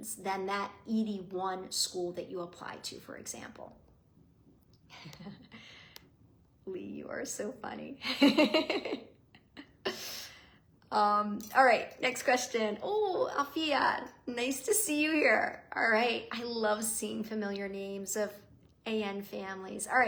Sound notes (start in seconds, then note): 8.1 laughs